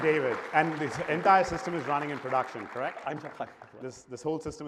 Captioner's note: applause